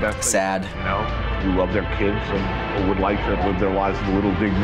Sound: voice-over

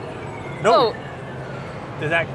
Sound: machine bleeps

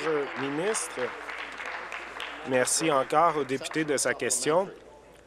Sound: applause

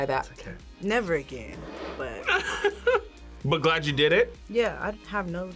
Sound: laughs

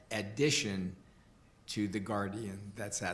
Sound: none

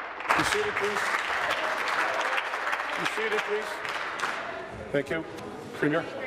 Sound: applause

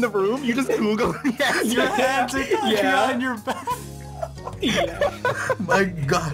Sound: more Laughter

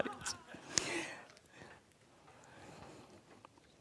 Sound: audience laughs

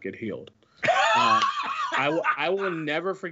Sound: laughs

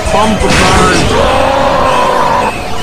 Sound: growls

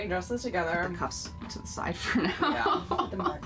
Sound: laughing

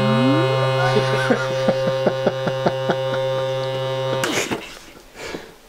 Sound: laughing

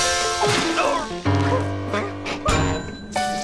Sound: groans

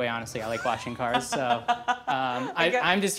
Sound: laughing

